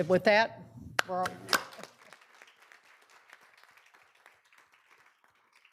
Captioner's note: audience applauding